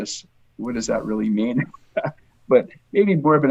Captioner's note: laughs